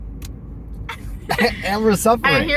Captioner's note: laughter